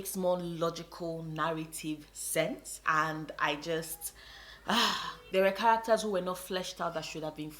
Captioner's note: sigh